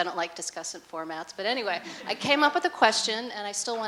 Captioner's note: laughter